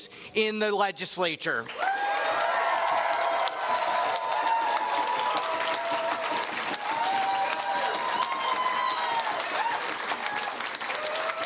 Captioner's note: cheers and Applause